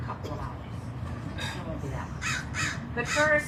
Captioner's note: bird calling in distance